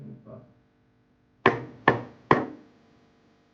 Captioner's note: three knocks